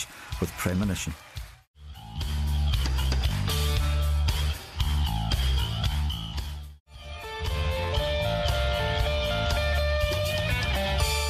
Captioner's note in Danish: Bifald